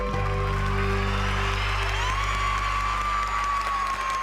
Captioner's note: cheering and applause